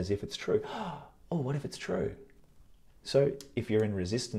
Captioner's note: gasps